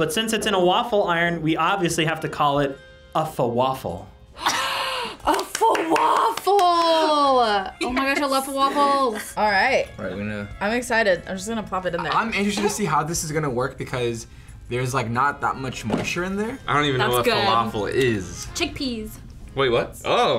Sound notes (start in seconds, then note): 4.4 gasps